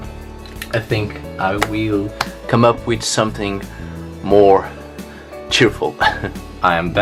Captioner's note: giggles